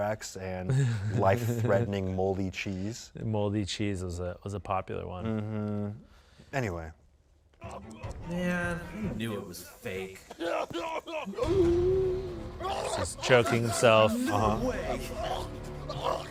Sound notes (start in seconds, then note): 10.2 laughs; 11.6 gasps